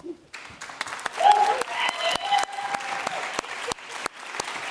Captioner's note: audience applauding